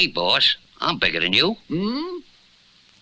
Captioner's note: Simon Gasps